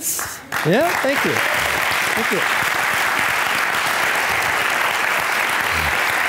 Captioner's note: audience applauding